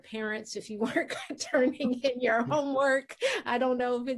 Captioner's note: laughing